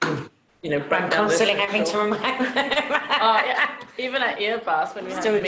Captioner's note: laughter